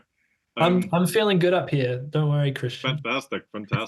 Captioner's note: laugh